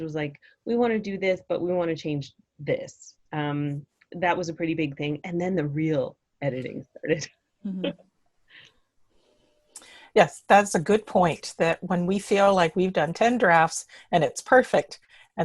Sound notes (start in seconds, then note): 7.2 laughs